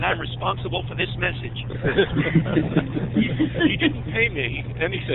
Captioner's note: laughter